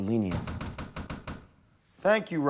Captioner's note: knocking